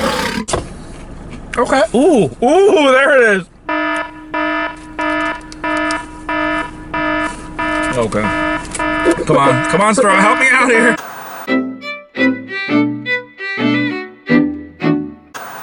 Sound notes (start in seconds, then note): 0.0 lion roars; 3.6 alarm beeping; 11.4 playful music